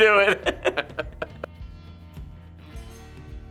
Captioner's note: chuckling; upbeat music